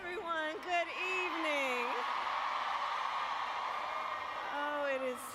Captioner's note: applause